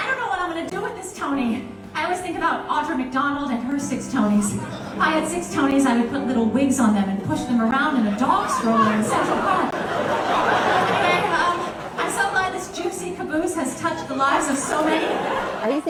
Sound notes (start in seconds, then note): 10.0 audience laughing